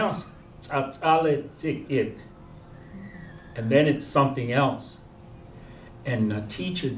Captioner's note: non-english